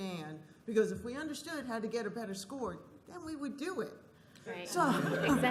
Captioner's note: laughter